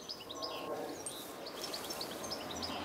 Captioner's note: birds chirping